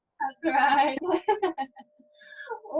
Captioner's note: laughs